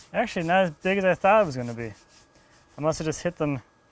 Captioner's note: none